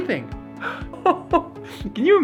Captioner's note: gasp